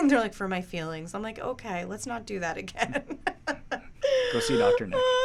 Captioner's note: laughs